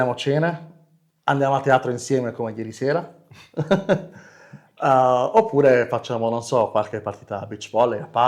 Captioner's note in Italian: risate